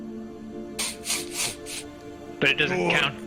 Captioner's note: sniffs